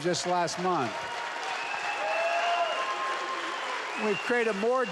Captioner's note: applause